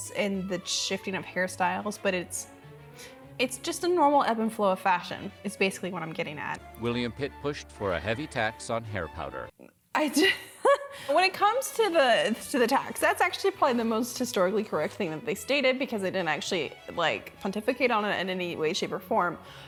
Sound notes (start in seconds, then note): 10.4 laughing